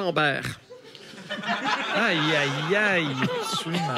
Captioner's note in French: rires